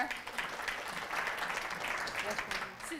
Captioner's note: applause